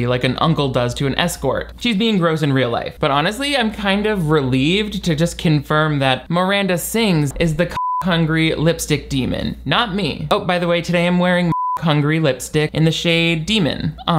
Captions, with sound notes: like an uncle does to an escort. She's being gross in real life. But honestly, I'm kind of relieved to just confirm that Miranda Sings is the (beep) hungry lipstick demon, not me. Oh, by the way, today I am wearing (beep) Hungry Lipstick in the shade Demon.